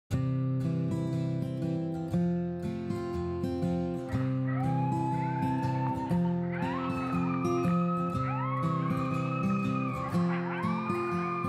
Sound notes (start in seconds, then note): 0.2 guitar strumming; 4.0 coyotes howling